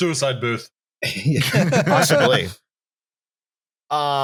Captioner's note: laughter